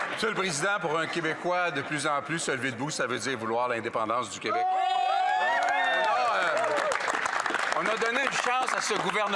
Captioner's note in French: applaudissements